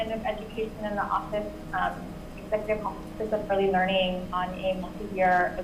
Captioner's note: mic cuts out